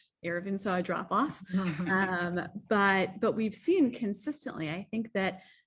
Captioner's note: laughter